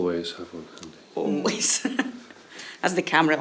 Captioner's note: laughing